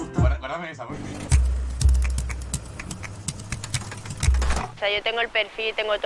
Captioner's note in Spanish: Palmas